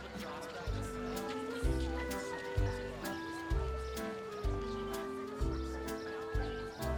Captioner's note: people chattering; soft jaunty music